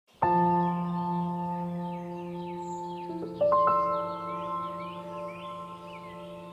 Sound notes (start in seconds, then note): 0.1 gentle music; 2.9 birds chirping